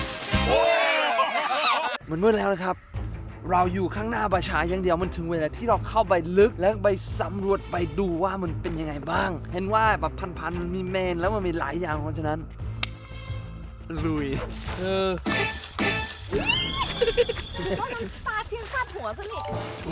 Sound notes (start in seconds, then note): 16.3 screams; 19.7 laughs